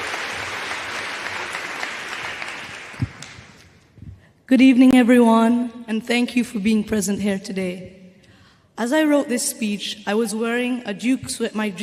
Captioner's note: applause